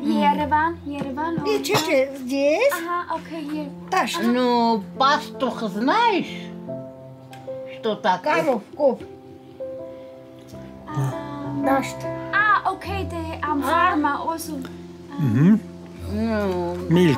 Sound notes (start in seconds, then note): 4.0 speaking Armenian